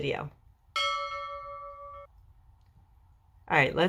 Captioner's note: bell dings